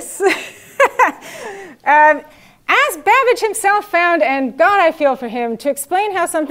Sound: laugh

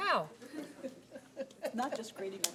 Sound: people laughing

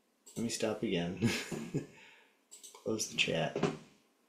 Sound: laughing

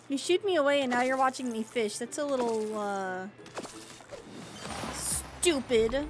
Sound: none

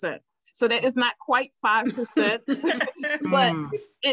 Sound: laughing

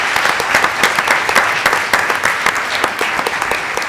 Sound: applause

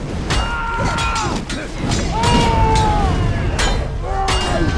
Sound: screaming; metal clanking

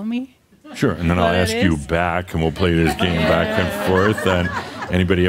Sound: laughter

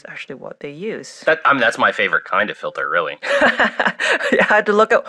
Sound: laughs

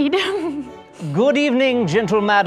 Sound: giggling

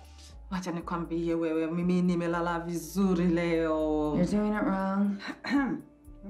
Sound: speaks in foreign language

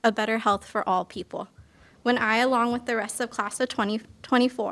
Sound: none

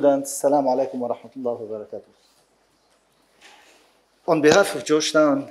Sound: speaking in foreign language

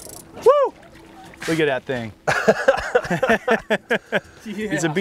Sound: laughing

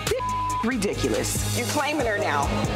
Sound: beep

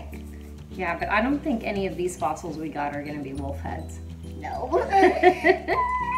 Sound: laughing

